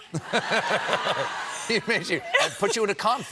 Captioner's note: laughter